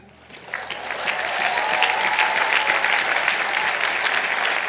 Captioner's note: audience applauding